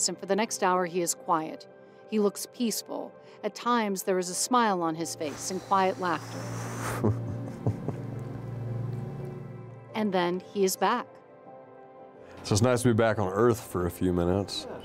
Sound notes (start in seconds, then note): 6.8 chuckles